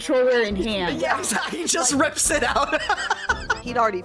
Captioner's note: laughing